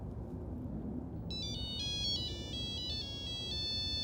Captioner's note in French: sonnerie Nokia